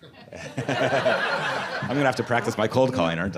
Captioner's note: audience laughing